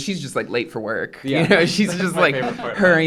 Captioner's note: laughs